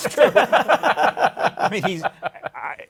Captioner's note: laughter